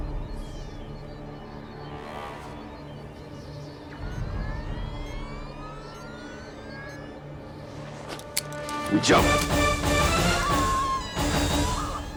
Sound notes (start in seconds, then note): 0.2 tense music playing; 3.9 high-pitched whine; 8.8 dramatic music playing; 10.2 Kelli screaming